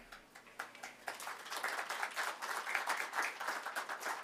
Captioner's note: audience clapping